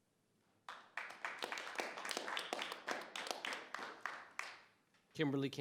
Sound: audience applauding

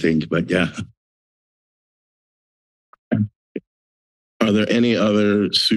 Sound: silence

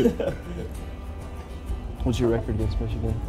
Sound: both laugh

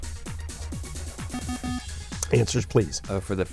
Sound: bell

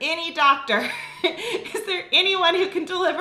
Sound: laughing

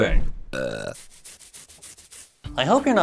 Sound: burps

